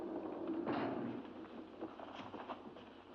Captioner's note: portcullis clanks down